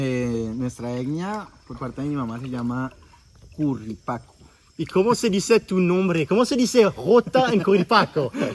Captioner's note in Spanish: risa